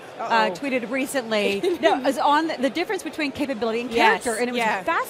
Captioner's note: laughs